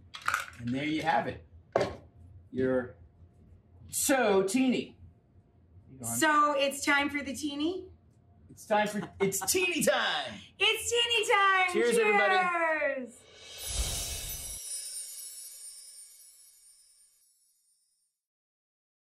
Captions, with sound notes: And there you have it. Your Tso-tini. So, it's time for the tini? It's tini-time! (Rachael laughs) It's tini-time, cheers! Cheers everybody.